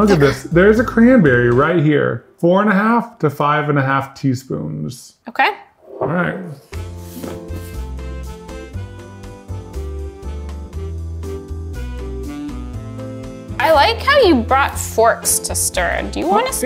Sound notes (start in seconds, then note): 6.4 cover swishing; 7.8 lounge music